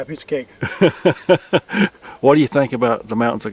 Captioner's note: laughing